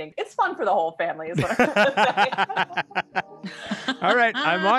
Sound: laughing

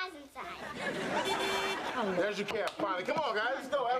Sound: car horn honks

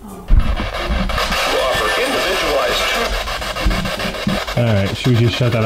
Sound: static crackling

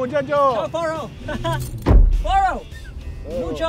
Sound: laughing

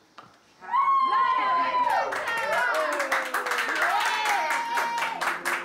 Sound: cheering; clapping

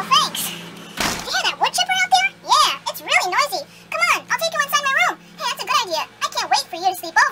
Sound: door closes

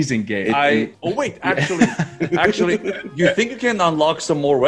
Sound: laugh

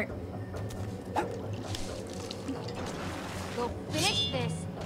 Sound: swoosh

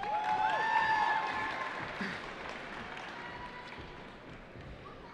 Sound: cheering

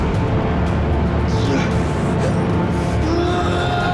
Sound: Scott groans

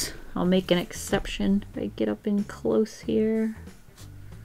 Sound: none

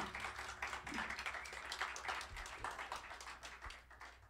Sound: applause

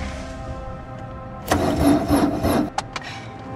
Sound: car engine dying

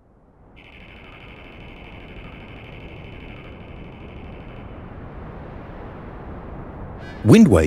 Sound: wind sounds

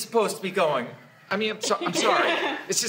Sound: students laugh

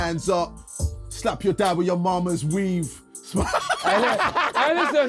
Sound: laughing

